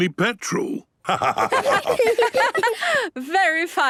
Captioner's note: laughter